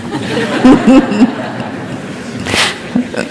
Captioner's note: laughter